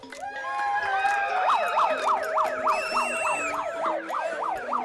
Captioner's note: all cheering; alarm blaring; alarm continues sounding; whistle blows